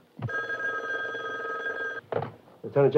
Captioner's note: phone rings